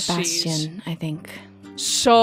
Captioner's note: sighs